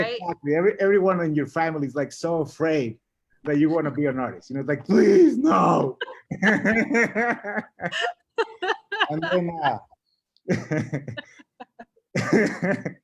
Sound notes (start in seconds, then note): 5.6 both laughing